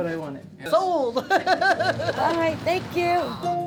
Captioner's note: laughs